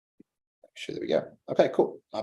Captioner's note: faintly speaking